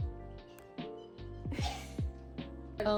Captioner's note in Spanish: llorando en el fondo